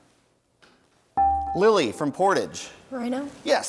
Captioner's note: bell rings